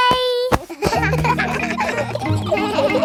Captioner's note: kids laughing